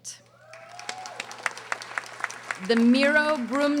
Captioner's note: audience applauding